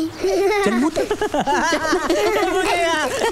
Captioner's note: Laughs